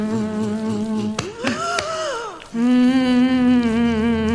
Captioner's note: gasping